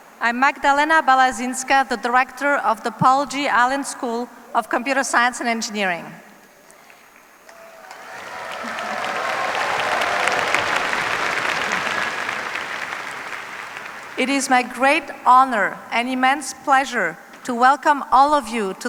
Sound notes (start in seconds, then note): 7.4 cheers, applause